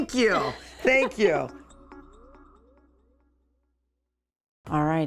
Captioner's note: laughing